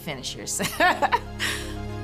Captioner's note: laughs